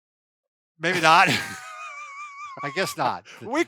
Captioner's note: laughing